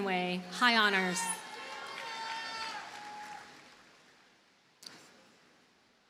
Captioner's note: audience cheers and applauds